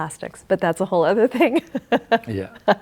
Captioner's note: laughs